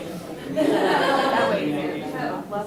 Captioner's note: laughter